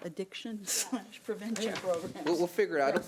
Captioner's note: chuckles